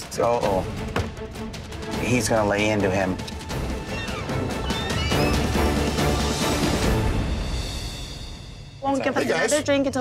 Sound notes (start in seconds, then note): 3.8 door squeaking; 5.5 dramatic music